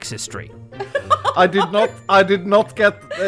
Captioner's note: giggling